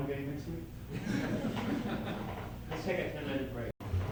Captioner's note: laughter